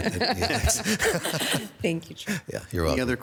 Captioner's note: chuckle